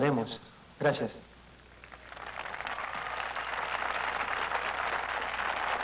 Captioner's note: applause